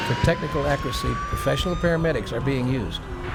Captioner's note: tires screeching